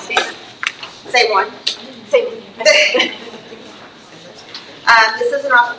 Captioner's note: laughs